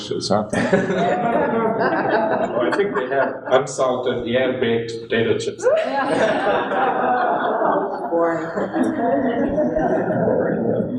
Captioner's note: laughter